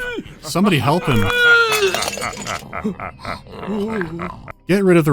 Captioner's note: vampire lords are laughing scornfully, while necromancer is wheezing powerlessly